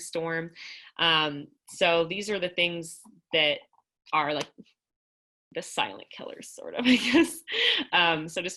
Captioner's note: laughter